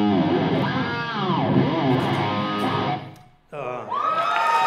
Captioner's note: cheers and applause